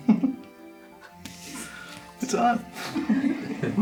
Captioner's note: couple giggling